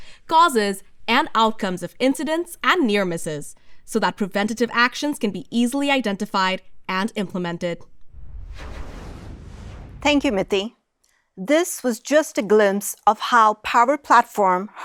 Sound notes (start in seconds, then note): 8.0 graphic whooshing